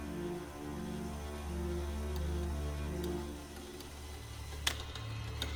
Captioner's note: whirring